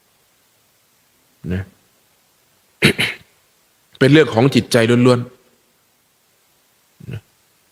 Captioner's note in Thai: เสียงไอ